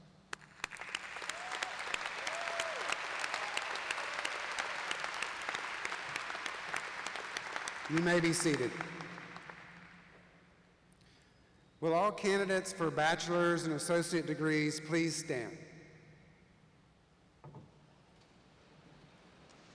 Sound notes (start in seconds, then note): 8.0 applause